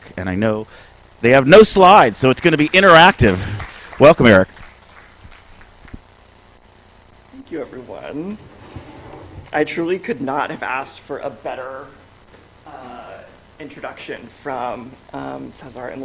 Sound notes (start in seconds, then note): 4.7 applause